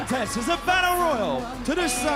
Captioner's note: bell ringing